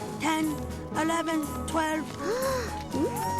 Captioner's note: gasps